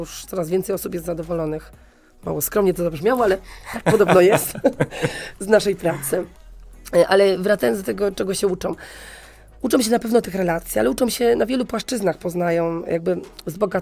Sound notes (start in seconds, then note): 3.6 śmiech